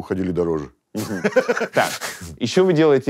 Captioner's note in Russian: смеется